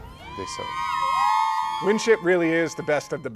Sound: crowd shouting excitedly

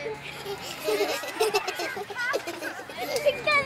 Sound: giggling

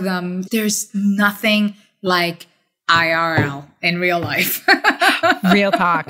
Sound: laughs

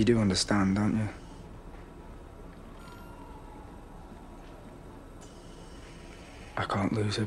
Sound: machine noises continue

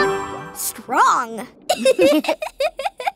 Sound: laughing

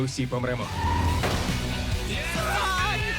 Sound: all exclaiming

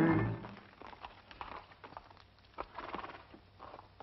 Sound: hooves clopping

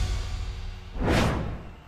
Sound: logo swooshing

